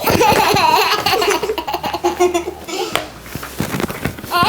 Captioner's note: giggling